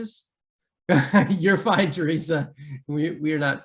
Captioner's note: laughs